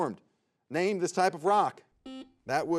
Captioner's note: buzzer beeps